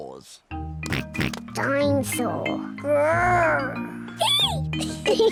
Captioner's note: oinks; roars; both giggle